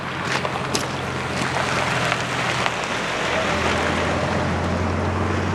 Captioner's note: tires crunching rocks